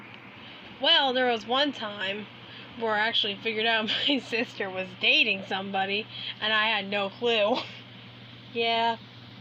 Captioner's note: giggles